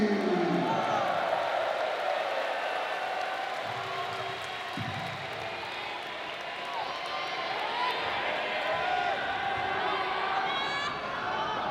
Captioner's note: applause